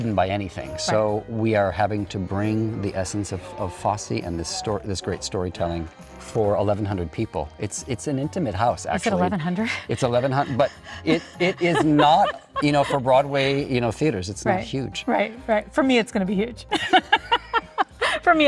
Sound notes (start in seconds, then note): 8.9 laughing; 11.6 panting; 12.7 laughing; 16.7 laughing